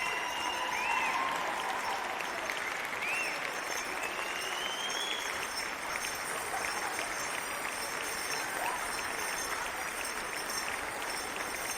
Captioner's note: cheering and applause